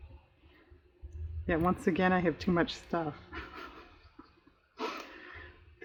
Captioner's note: laughs